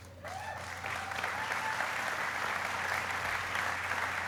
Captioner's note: applauding